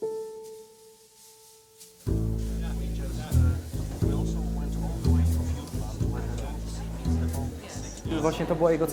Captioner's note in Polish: odgłosy rozmów